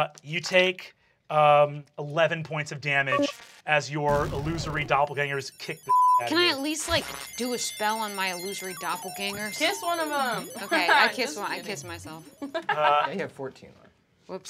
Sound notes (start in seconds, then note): 5.8 beep; 10.2 laughs